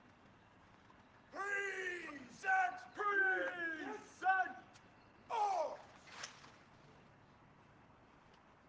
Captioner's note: military drill commands